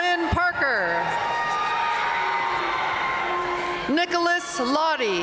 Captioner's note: audience cheering and applauding